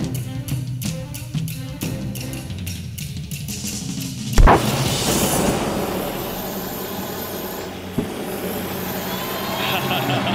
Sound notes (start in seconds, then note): 0.1 tense expectant music; 6.4 fire whooshing